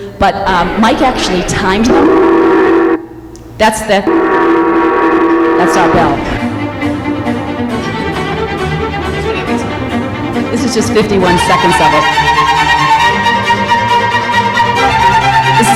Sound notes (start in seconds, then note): 1.7 gong sound; 6.7 orchestral music